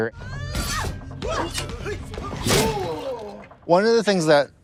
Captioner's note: group screaming